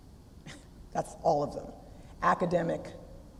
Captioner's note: laugh